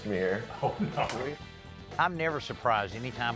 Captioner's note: laughing